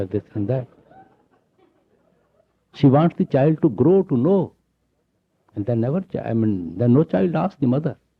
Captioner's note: laughter